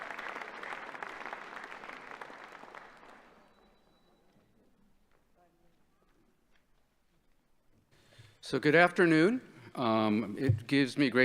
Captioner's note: applause